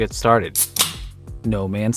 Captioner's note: can opening